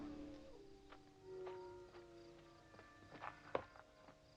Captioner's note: wolves howling